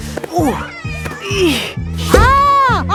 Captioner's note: grunting